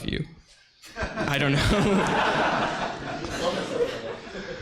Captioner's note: audience laughs